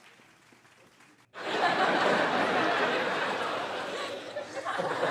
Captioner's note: laughter